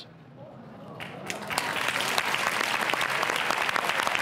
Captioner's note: audience applauds